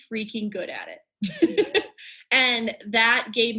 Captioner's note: laughs